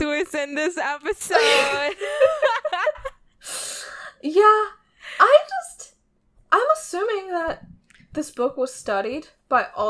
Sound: both laughing

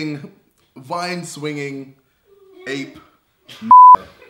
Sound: beep

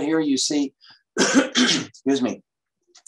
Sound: coughs

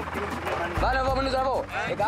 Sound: Portuguese spoken audio

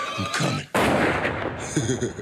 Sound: gunshot; laugh

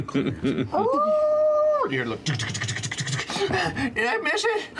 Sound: howls; mimics the sound of rushing footsteps; laughs

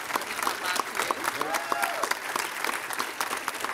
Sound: applause

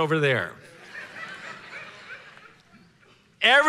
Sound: congregation laughing

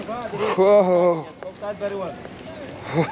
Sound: speaking in foreign language; laughing

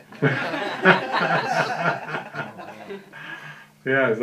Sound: laughter

